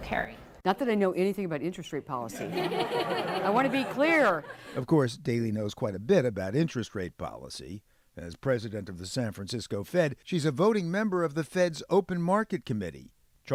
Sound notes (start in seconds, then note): 2.3 laughter